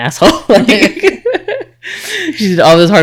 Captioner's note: laughing